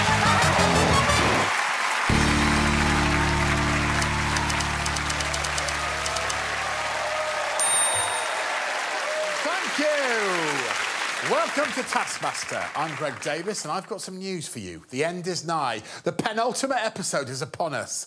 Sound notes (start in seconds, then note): 0.2 cheers and applause; 3.7 typewriter clacking; 7.6 tings; 8.7 applause